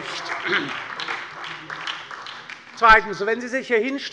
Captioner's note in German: Beifall bei der LINKEN und der SPD